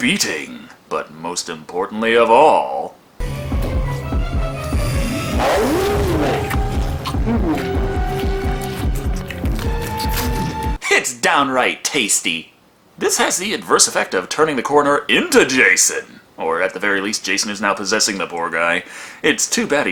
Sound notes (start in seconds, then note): 5.4 nom nom nom; 9.8 Squish